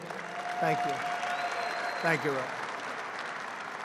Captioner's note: applause